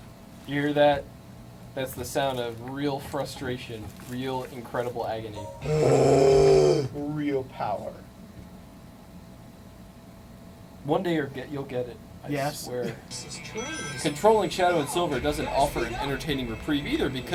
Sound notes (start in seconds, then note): 5.6 medibot makes a groaning-like sound